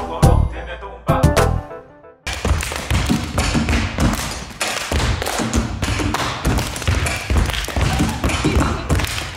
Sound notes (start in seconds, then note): 2.2 stomping and clapping